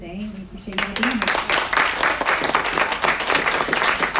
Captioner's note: applause